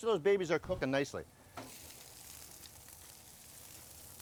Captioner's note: grill sizzling